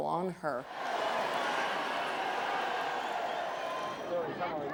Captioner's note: crowds cheering